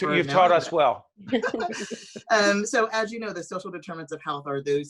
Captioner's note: laughing